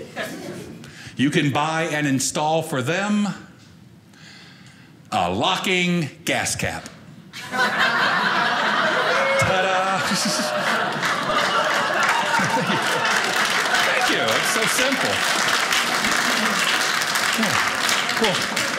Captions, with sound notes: You can buy and install for them a locking gas cap. (audience laughing) Ta da! (audience applauding) Thank you, so simple. (audience applauding)